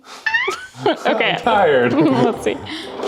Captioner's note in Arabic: يضحك